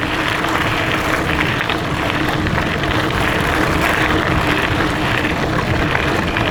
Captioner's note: gravel crunching